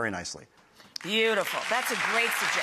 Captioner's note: audience applauds